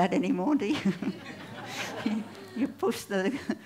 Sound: laughter

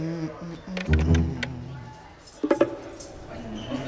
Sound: humming

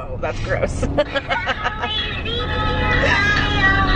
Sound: laughing

